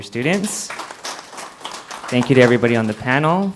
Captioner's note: applause